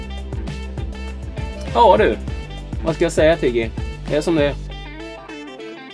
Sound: Speaking Swedish to Tiggy

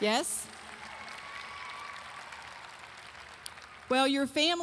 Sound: audience applauding

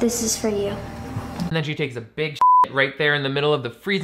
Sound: beep

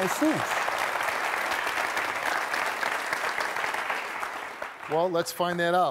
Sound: audience applauding

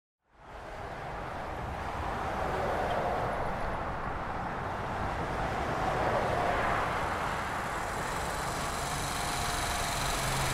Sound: cars pass on a busy highway

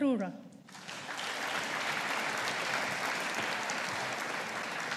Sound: audience applauding

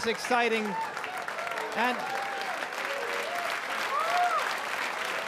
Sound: audience applaud

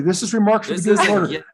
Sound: frustrated sigh

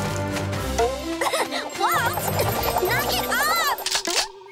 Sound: giggling

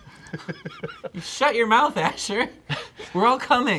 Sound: laughing

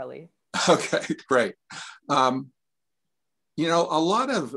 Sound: chuckles

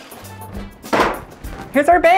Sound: wood thudding

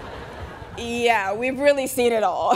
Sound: students laughing

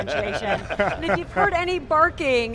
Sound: laughing

